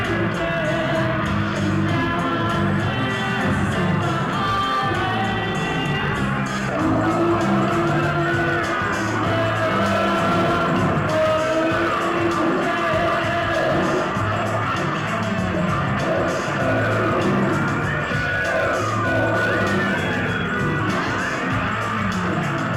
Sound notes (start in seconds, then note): 15.9 burps